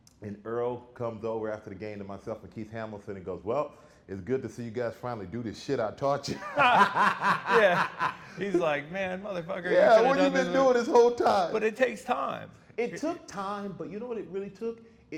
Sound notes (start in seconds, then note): 6.3 laughing